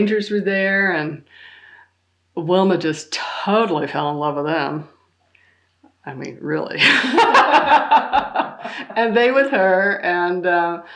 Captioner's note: laughter